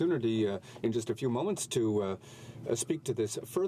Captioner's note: speaking French